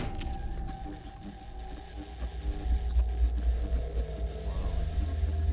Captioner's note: static crackling